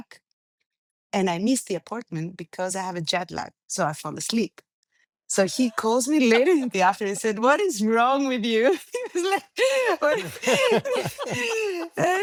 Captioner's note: laughing; laughs